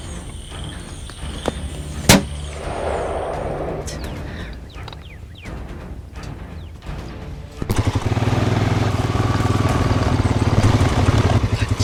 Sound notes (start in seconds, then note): 2.1 high-caliber rifle fires and bolt cycles; 7.6 deep exhaust roar of mud tires churning through wet logging ruts